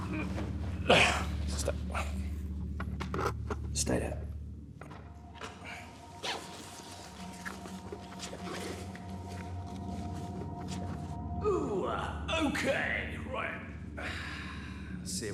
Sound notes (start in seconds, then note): 5.6 ominous music continues; 5.7 bag rustling